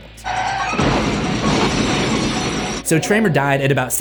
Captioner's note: explosion roaring